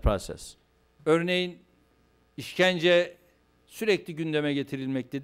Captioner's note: non-english speech